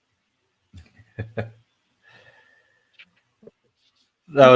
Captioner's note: laughs